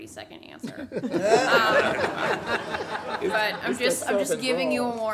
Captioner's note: everyone laughs